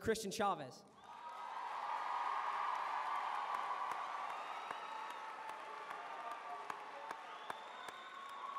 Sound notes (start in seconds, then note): 0.9 cheering; 3.5 applause